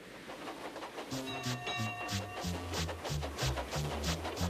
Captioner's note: dings bell